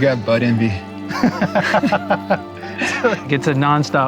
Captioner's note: all laughing